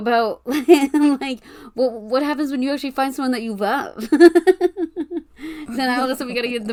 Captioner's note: laughing